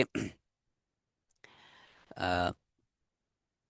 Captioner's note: clearing throat